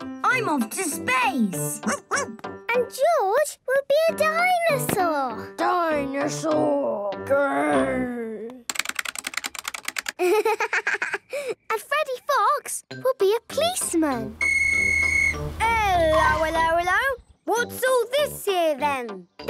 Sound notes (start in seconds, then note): 8.6 keyboard clicking; 14.4 whistle blowing